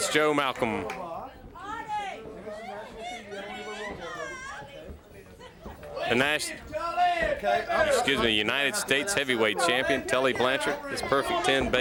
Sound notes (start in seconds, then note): 1.7 crowd chatter